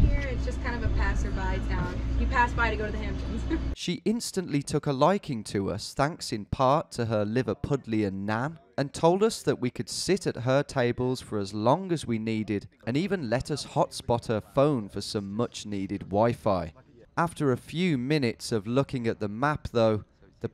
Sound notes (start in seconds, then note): 3.5 laughs